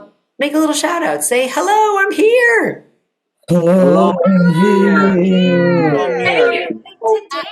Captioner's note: audience shouting